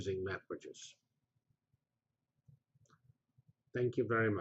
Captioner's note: pause